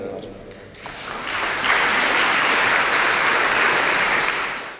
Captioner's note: applause